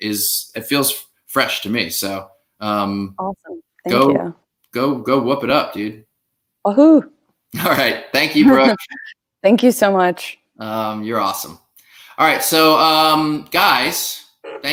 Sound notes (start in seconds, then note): 8.4 cheers